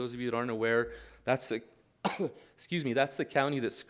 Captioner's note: coughs